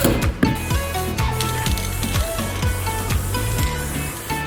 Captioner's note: paint can whooshes